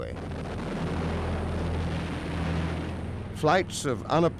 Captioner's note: bombs exploding